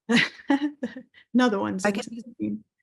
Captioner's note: laughing